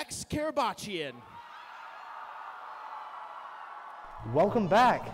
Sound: cheering

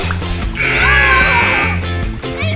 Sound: grrr, grrr!; buzzer

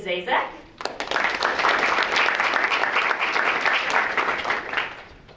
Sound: audience clapping

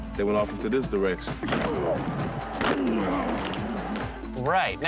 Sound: grunting

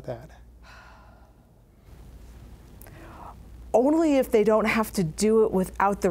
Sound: sighs

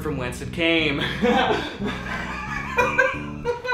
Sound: laughing

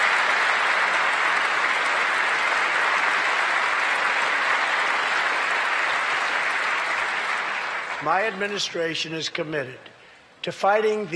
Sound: applause

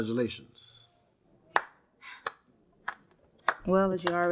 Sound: clapping softly

